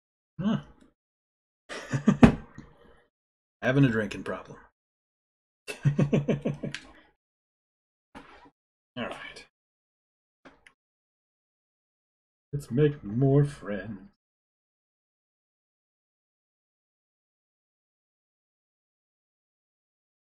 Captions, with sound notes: Nngh! [laughs] Havin' a drinkin' problem. [chuckles] All right. Let's make more friends~